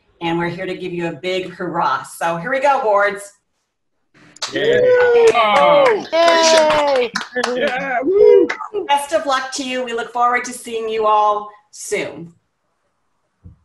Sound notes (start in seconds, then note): 4.4 cheering